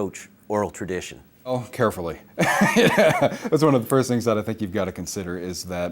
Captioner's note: laughs